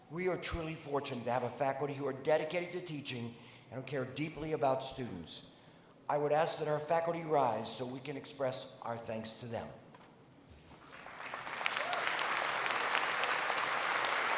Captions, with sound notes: We are truly fortunate to have a faculty who are dedicated to teaching and who care deeply about students. I would ask that our faculty rise so we can express our thanks to them. [APPLAUSE]